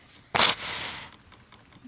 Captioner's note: sniffling